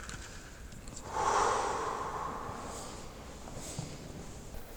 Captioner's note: takes a deep breath